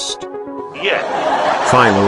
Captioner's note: audience Laughing